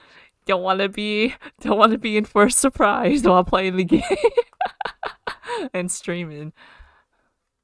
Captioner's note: laughs